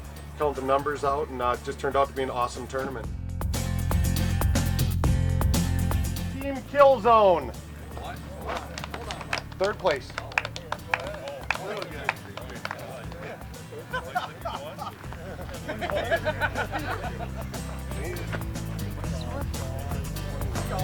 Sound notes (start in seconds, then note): 12.4 clapping; 16.6 laughing